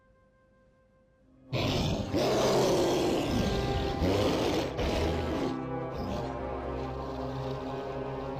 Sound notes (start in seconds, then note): 1.5 sphinx roaring; 5.3 sinister music